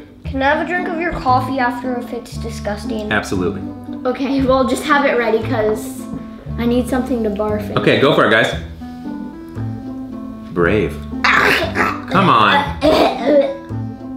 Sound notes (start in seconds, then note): 12.6 coughs